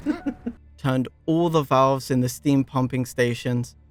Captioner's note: laughter